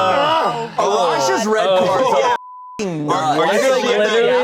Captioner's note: beep